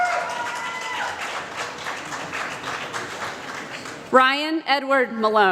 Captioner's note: applause